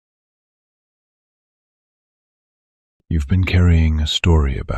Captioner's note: soft voice